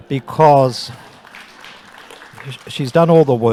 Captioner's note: audience applauding